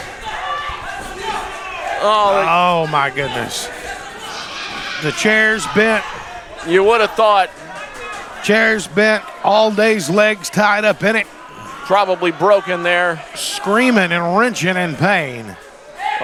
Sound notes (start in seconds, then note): 1.3 loud arguing